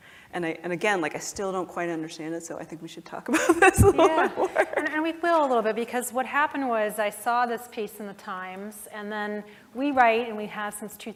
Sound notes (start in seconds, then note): 3.4 laugh